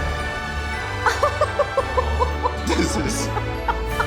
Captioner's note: laughing